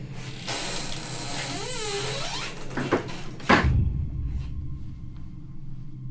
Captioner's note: door creaking